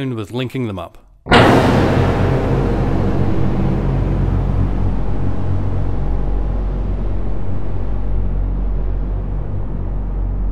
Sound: multi octaved version of previous sound plays

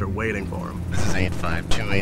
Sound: helicopter whirring

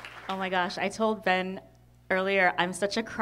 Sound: applause

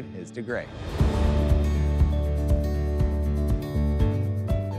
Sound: transition whooshing

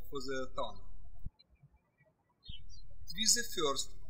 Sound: birds chirping

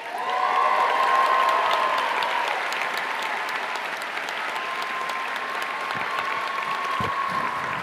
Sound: applause

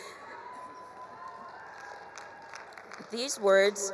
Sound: chuckles; attendees cheering; attendees applauding

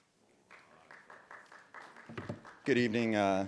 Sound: audience applauding

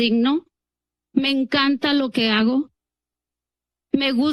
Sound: speaks in Spanish; speaks in Spanish

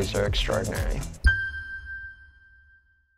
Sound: ピーンという音が響く

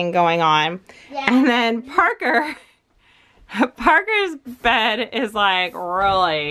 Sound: laughs

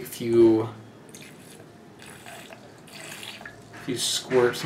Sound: hydrogen peroxide squirting into water

